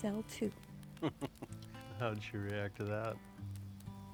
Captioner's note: laughs